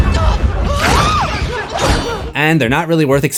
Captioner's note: screams